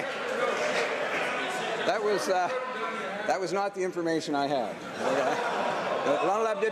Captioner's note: some laughter